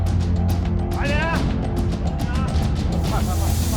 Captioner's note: henchman speaking in foreign language; canister hissing